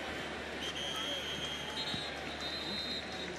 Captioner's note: whistle